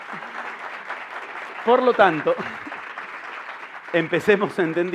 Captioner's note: applause